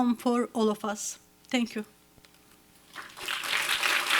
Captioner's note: applause